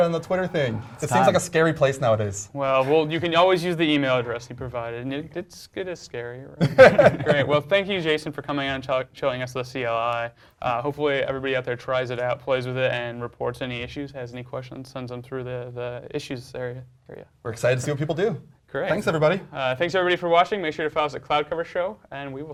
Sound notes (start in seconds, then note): 6.6 laugh